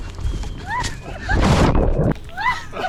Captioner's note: laughing; water splashes; water splashing